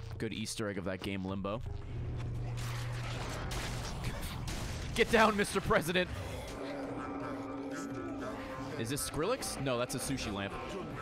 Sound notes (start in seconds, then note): none